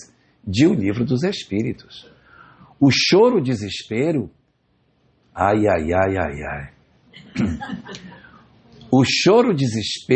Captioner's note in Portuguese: limpando a garganta